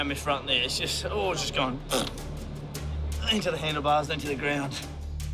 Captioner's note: raspberry